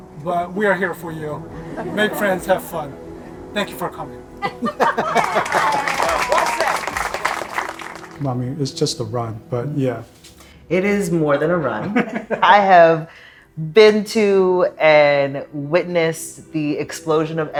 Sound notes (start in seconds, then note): 4.4 crowd applauding; 12.0 laughs